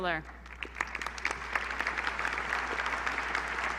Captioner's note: applause